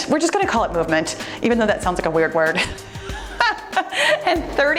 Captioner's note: laughs